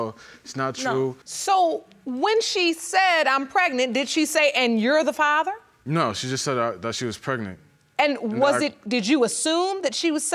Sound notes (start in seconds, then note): none